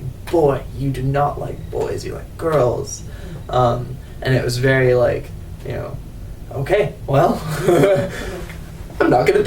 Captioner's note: laughs